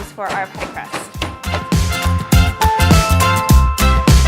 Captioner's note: banging